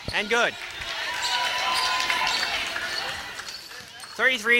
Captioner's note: cheering